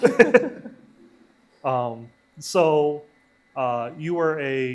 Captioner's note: both laughing